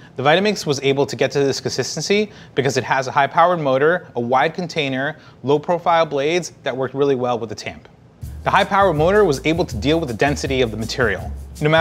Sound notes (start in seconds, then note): none